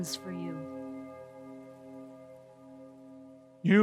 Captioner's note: bell chime in distance